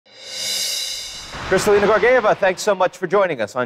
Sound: air whooshing

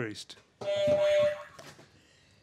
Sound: honk; boing

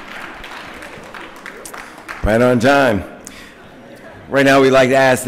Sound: applause

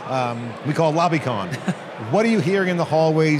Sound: laughs

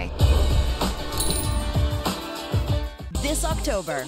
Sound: bell chimes

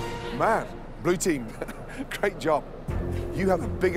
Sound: laughs

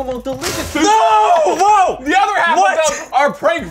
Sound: screaming

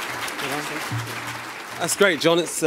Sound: speaking off mic

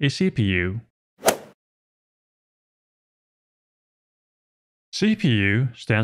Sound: golf ball hit sound effect

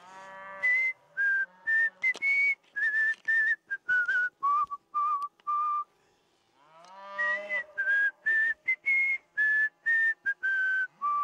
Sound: whistles

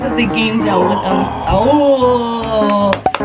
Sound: weird groan sounds

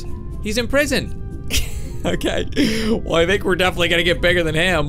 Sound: laughs

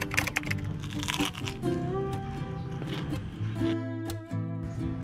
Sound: crispy sound effect

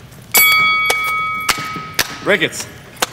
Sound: bell rings

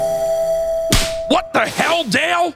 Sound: smack

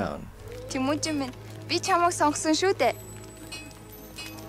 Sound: speaking Mongolian

